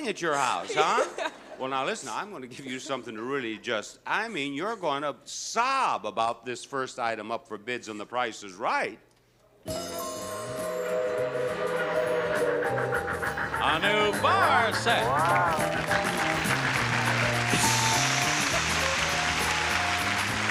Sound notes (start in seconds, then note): 9.1 train hooting; 11.3 train engine chugging; 15.1 audience clapping